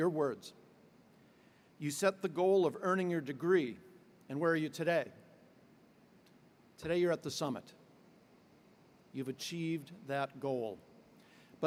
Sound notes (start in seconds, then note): none